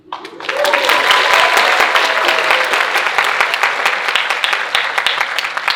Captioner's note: audience cheering and applauding